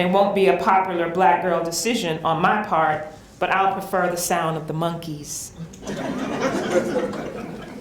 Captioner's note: laughter